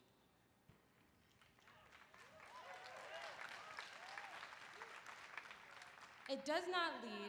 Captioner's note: applause